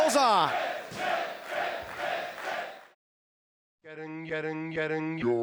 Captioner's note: fans chanting